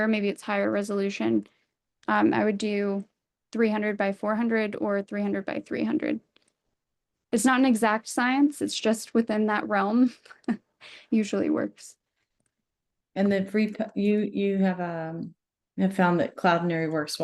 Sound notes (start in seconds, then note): 10.1 chuckles